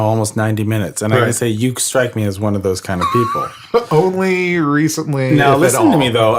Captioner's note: laughs